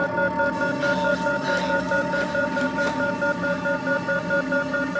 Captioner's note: alarm ringing